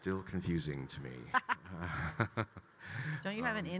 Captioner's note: laughing